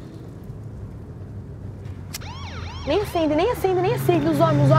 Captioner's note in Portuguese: Sirene de Polícia